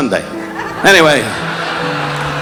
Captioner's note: audience laughing